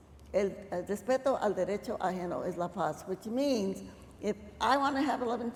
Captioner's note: speaking spanish